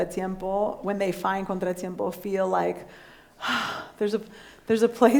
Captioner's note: sighs